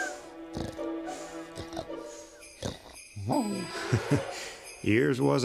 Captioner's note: sleigh bells ring